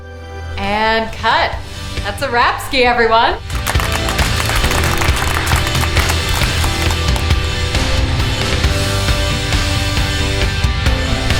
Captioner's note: crew and cast clap